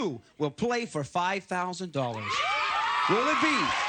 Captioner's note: applause